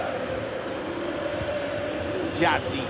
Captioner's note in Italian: Applauso